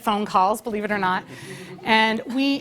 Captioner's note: laugh